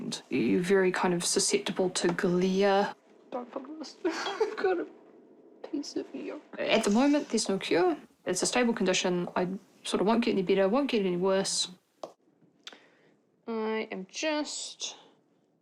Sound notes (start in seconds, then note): 4.0 chuckles